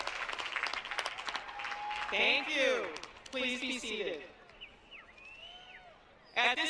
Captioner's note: applause